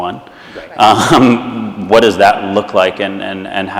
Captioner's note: laughs